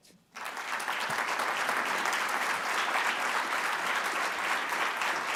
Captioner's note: audience applauding